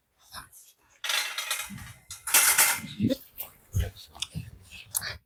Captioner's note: noise of gate closing